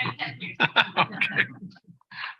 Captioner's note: laughter